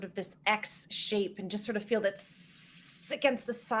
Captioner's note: hissing